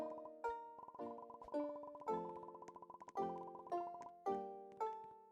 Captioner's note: more Popping